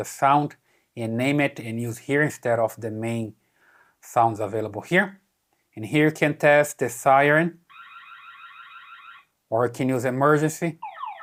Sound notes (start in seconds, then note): 9.2 siren wailing